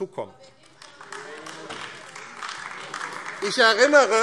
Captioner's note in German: Beifall AfD - Zurufe SPD und DIE LINKE